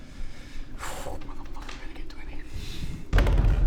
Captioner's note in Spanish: Susurro